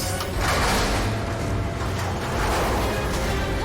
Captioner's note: clunking and whirring